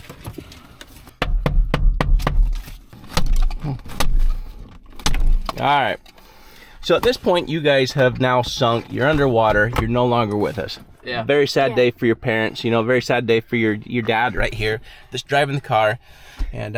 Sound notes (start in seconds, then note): 1.2 hand knocking on window; 3.4 headrest hitting window